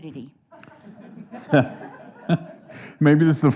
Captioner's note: audience chuckling